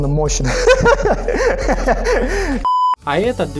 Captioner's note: giggles